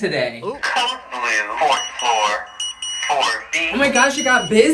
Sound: man Over Intercom

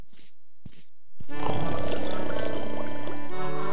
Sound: timbers snoring; bubbling

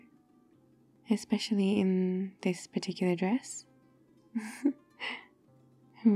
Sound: laughs

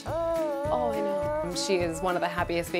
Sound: coos; mom whispers

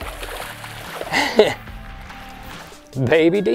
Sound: laughs

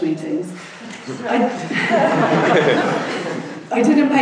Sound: laughing

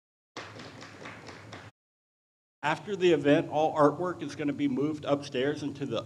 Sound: audience applauds

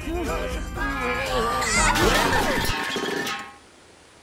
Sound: flirtatious fox sounds; cans Crashing

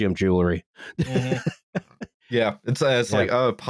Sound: laughs

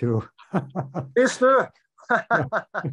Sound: laughs; both laugh

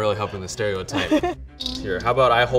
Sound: laughs

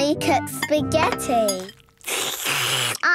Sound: slurping

